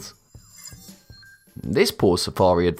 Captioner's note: futuristic ringing